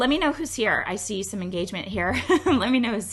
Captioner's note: laughs